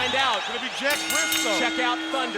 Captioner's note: bell rings